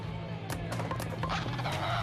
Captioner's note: LiMu squawks